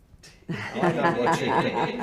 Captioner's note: all laugh